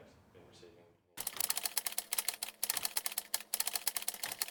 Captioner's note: keys typing